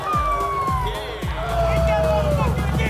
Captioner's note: cheering; engine revving